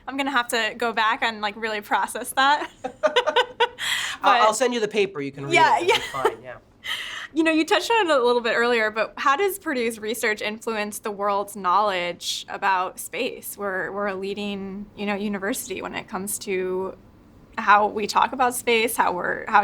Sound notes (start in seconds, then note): 2.6 both laughing